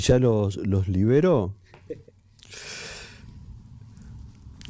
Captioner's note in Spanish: risas